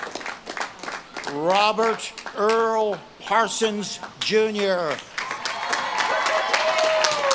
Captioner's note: audience claps and cheers